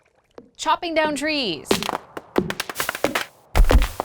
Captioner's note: chopping; thud